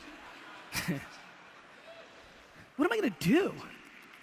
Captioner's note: audience laughter